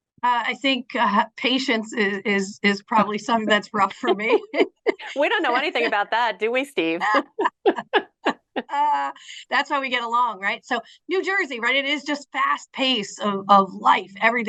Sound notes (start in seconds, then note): 7.0 laughing